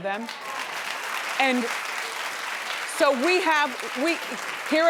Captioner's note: audience claps